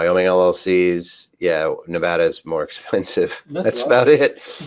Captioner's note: chuckles